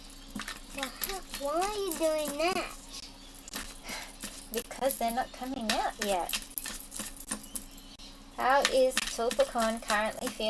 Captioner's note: shuffling